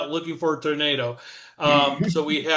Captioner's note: muffled laugh